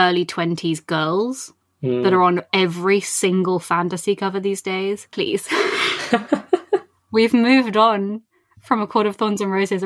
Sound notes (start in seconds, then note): 5.4 laughs